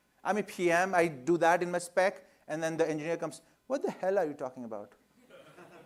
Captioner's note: laughter